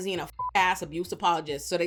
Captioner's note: beep